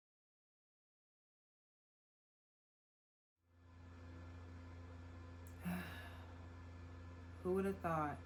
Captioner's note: sighs